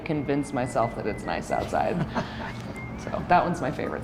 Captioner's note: chuckles